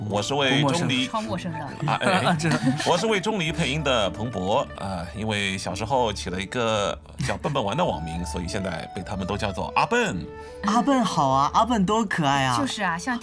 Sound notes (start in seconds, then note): 1.8 cough